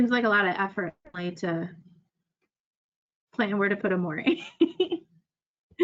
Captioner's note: laughs